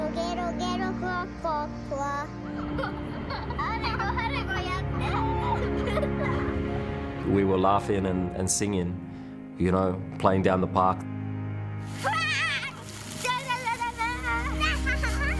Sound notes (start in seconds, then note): 2.4 children laughing; 11.9 children laughing